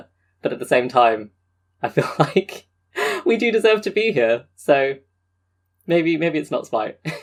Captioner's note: laughing